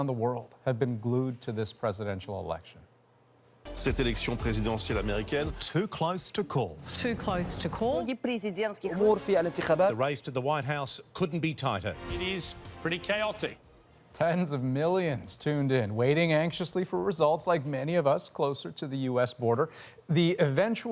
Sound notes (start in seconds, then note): 10.2 speaking French; 12.1 speaking foreign language